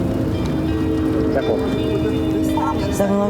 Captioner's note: radio: 10-4